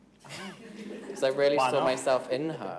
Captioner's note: all laughing